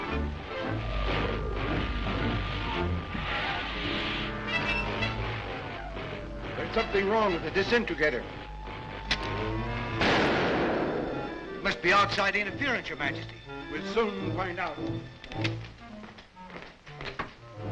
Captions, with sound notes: (soft expectant music) - There's something wrong with the disintegrator. (machine popping) - Must be outside interference, Your Majesty. - We'll soon find out. (soft uneasy music)